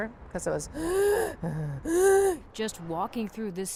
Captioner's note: gasp, gasp